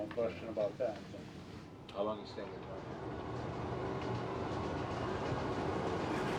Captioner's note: soft whine of railcar wheels